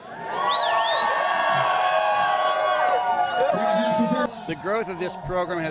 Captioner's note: crowd cheering